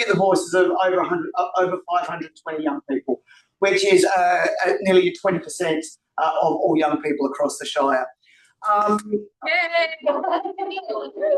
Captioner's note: background cheers